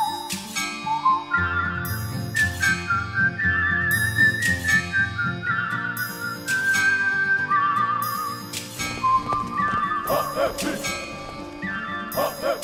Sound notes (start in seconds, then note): 0.0 whistling; 6.4 chanting